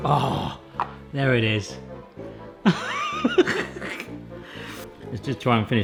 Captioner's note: upbeat music; laughs